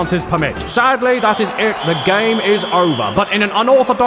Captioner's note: whistle blowing